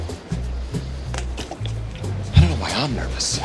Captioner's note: coffee spilling